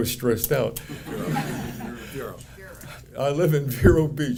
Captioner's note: audience laughing